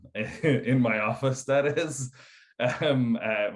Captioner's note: laughs